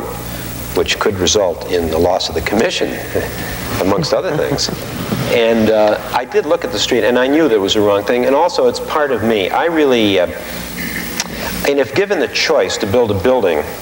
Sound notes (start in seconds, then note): 3.0 both laughing